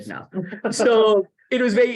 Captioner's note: laughter